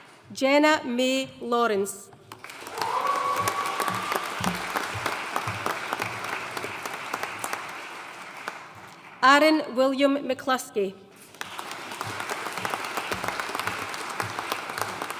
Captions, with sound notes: Jenna May Lawrence. (AUDIENCE CHEERING AND APPLAUDING) Arran William McCluskey. (AUDIENCE APPLAUDING)